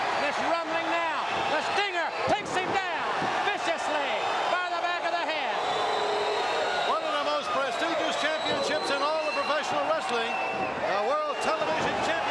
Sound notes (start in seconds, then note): 7.9 crowd cheering